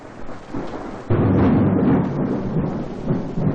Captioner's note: thunderclap